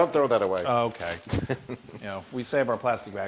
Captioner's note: laugh